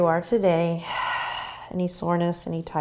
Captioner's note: exhaling